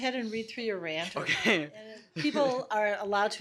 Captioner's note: laughs